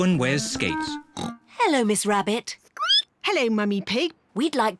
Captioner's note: snorts; squeaks